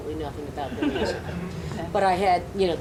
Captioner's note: audience laughs